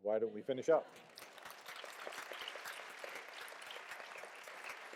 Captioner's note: applause